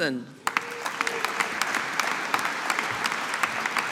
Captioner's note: audience applauding